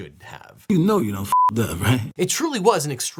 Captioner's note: beeping